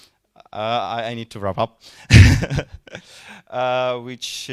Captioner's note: chuckling